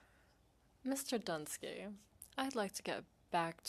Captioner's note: speaking French